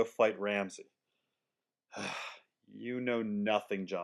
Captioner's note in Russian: Вздох